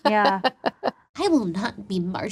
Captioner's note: laughing